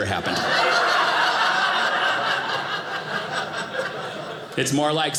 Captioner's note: audience laughing